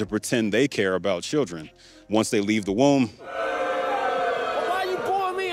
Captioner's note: crowd